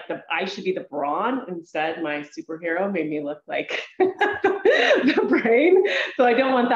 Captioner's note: laughs